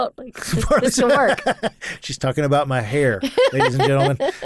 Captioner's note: laughs